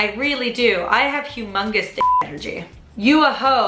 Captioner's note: beep